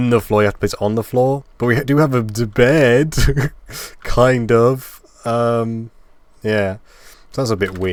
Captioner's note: laughing